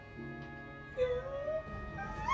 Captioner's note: excited whimpering